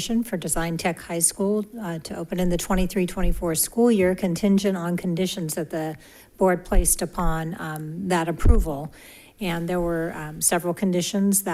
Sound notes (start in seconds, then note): none